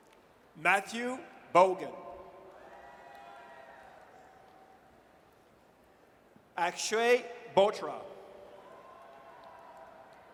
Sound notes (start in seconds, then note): 2.5 audience cheers; 8.6 audience cheers